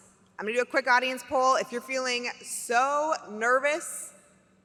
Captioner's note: none